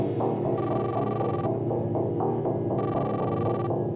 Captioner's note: cellphone ringing